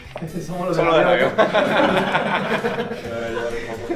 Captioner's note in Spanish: laughter